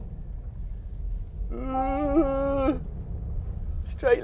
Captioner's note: whimpers